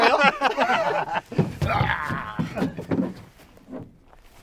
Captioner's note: both laughing